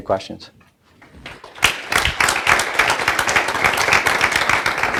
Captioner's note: applauding